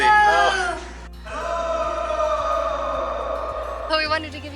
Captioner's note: echoing "Hello"